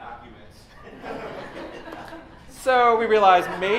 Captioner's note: laughter